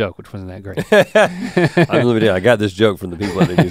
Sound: both chuckle

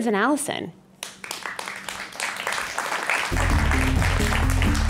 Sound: audience clapping

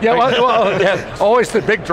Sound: laughing

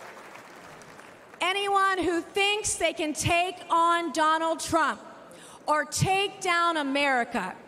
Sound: applause

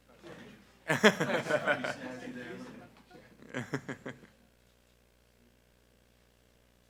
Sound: group laughing

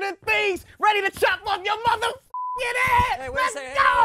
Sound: beeping

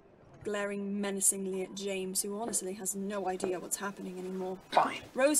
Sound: footsteps

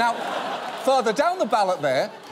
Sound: audience laughs

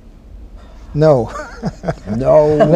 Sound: laughter

